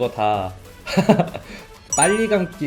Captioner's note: laughter